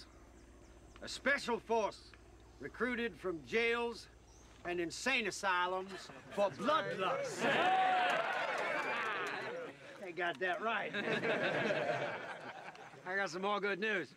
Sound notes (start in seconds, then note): 5.8 laughter, cheering; 10.7 men laugh